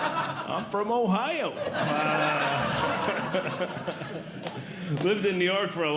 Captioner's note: audience Laughing; audience Laughing